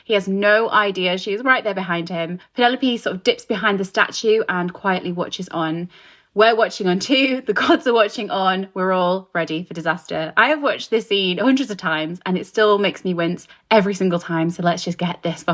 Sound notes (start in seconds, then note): none